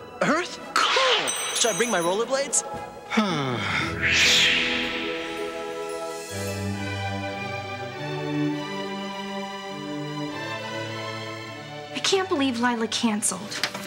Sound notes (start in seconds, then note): 3.0 God sighs; 6.7 bright orchestral music